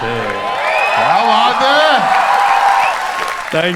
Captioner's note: crowd applauding